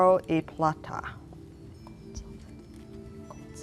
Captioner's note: whispering